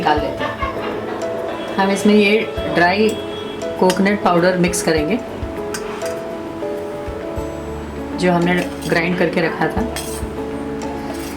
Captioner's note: grind